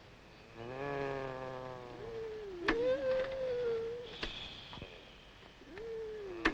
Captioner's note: Briny and Salty snoring loudly